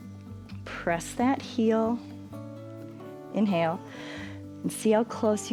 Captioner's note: inhales